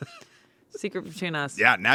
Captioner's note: laughs